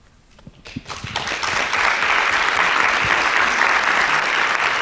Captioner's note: audience clapping